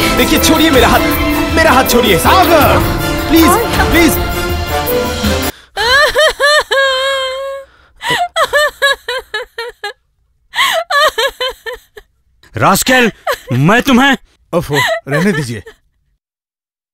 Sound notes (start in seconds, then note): 6.6 crying